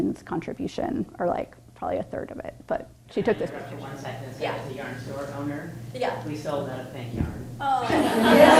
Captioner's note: applause